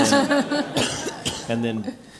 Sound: laugh

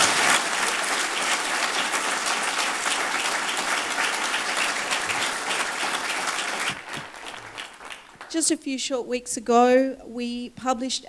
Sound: applause

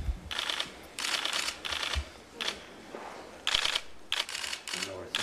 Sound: camera clicks

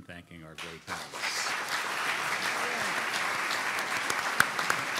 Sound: clapping

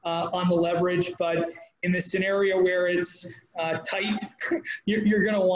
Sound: laughing

